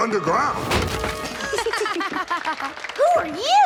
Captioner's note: laughs